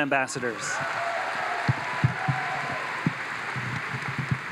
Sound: audience applauds

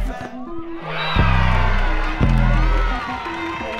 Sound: crowd cheering

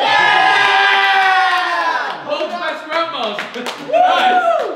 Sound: Nighiga's group cheering

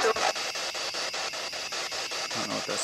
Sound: loud, choppy static

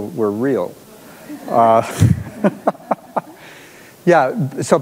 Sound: audience laughs

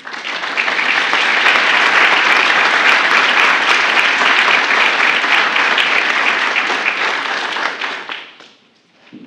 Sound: applause

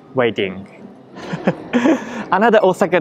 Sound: chuckles

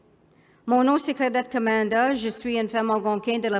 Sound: speaking french

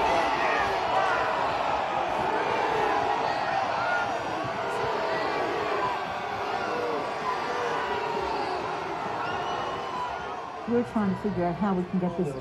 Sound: shouting

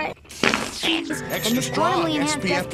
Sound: poot; bonk

